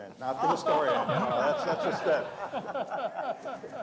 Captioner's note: laughter